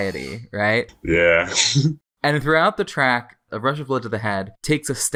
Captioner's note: laughs